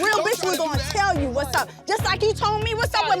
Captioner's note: clapping hands; tense hip-hop music